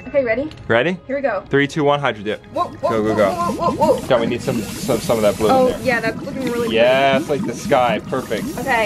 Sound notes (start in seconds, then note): 3.1 paint spraying